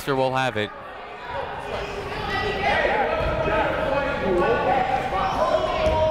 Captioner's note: people shouting in the crowd